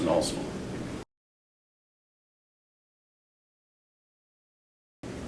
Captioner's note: silence